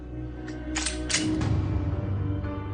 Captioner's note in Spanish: Sonido al cargar el arma